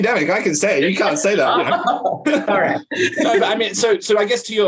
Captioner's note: laughs